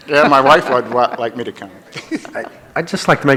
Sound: chuckles; laughs

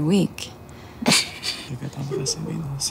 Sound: Nico laughs

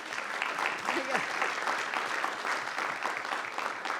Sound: audience applauding

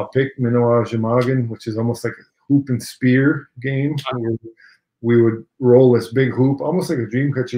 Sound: speaking Ojibwe

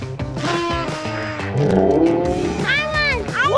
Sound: horn tooting

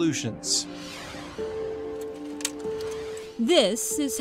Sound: ambient upbeat music; whooshing

